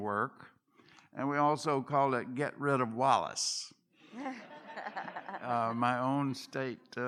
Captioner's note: laughter